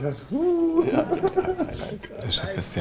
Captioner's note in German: lacht; Kichern